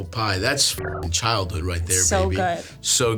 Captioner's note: beeps